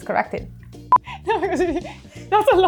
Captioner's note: laughing